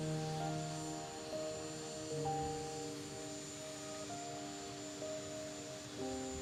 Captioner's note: plane turbines droning; bright instrumental music